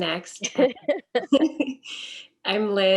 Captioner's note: laughs